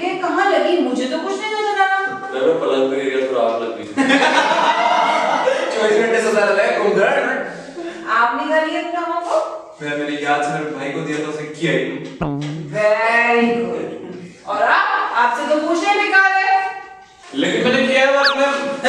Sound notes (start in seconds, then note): 4.8 laughing